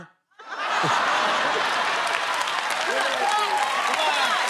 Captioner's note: laughter